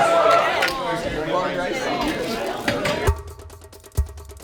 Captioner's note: chattering; percussive music